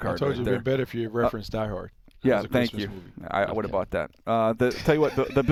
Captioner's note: laughs